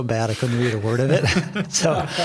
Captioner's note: everyone laughing